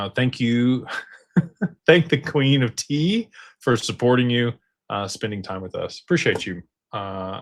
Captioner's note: laughter